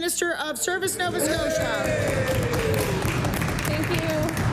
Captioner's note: applause